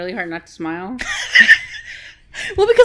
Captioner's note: laughing